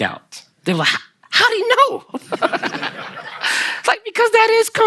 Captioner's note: Kelsey and the audience laugh